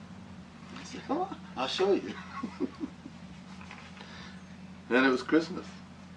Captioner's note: laughing